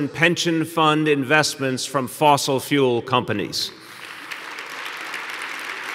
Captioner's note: applause